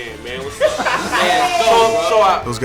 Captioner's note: laughing